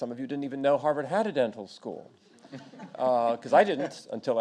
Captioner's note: audience laughs